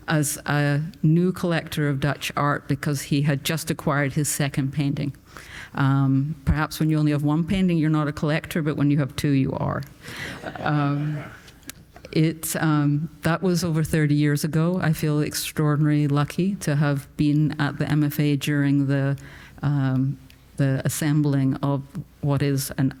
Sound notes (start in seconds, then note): 10.2 audience laughing